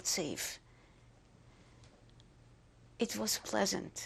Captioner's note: pauses for 3 seconds